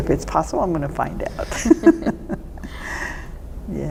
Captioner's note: laughter